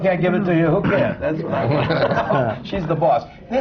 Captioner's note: laughter